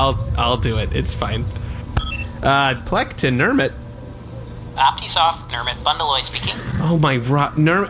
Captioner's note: communicator chimes